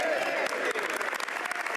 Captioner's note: applause